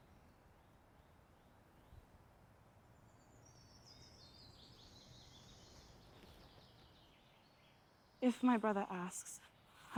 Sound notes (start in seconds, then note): 3.0 birds singing